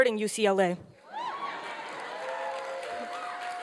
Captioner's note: applause and cheering